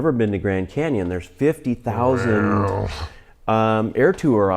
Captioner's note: short droning